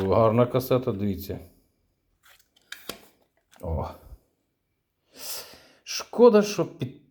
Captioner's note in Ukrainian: сопіння